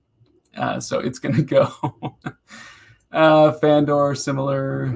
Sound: laughing

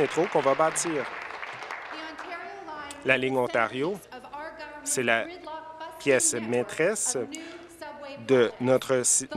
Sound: applause

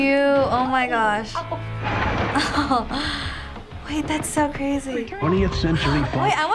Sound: chuckles

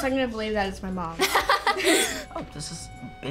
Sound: laughs

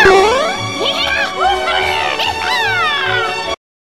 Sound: More Toad gibberish

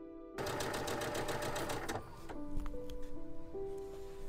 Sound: soft music continues; sewing machine running; soft music continues

